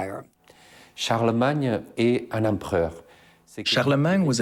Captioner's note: speaking in foreign language